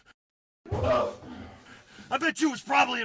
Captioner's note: moan